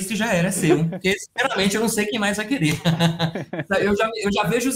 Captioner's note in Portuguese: risos